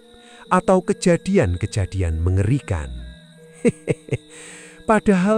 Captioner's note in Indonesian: tertawa